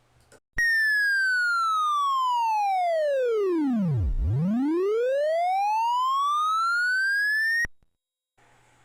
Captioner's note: computer tone descending and then ascending